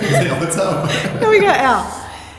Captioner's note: laughs